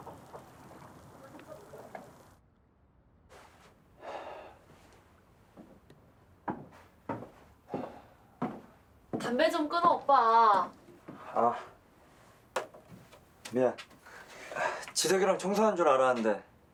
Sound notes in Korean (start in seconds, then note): 3.3 세진 담배연기 뱉는 소리; 6.4 다가오는 진희 발걸음 소리